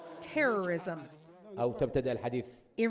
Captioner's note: chants